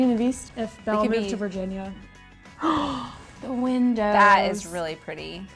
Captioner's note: gasping